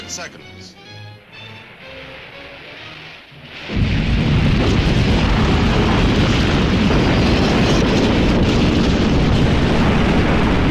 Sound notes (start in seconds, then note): 4.1 lively orchestral music; 4.1 missile whooshing